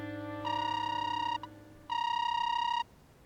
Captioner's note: phone ringing